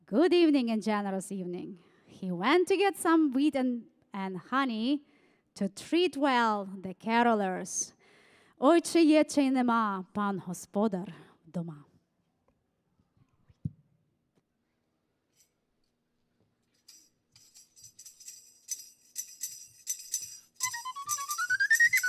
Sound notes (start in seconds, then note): 9.1 speaking foreign language; 18.8 upbeat folk music